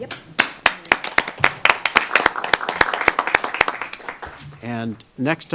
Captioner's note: applause